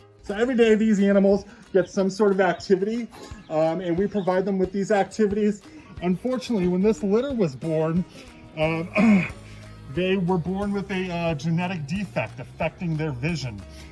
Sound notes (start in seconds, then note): 8.8 clears throat